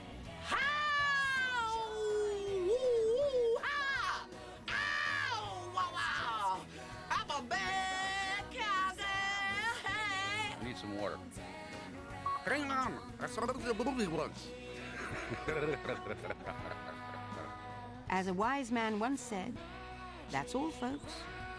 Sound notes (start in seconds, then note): 0.2 shouting; 12.3 gargled speech; 14.8 gargled laugh